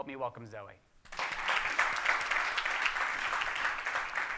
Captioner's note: audience clapping